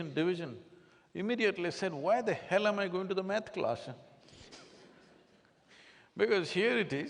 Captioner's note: laughs